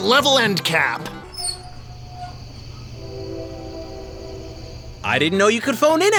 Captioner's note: squeaks and creaks